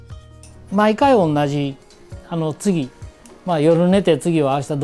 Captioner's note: speaking foreign language